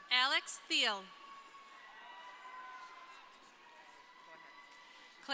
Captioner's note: crowd cheering